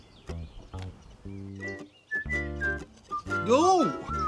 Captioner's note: whistling; upbeat music